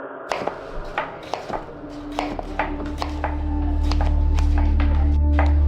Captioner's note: chopping sounds